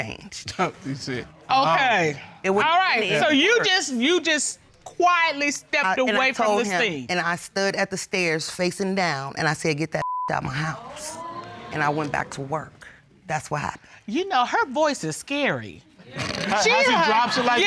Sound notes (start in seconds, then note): 10.8 audience exclaims